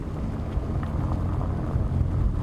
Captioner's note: road noise